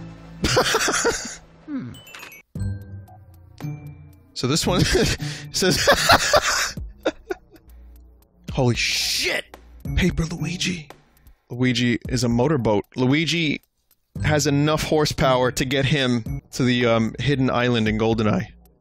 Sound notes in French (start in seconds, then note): 0.5 rire; 5.7 petit rire; 5.7 éclate de rire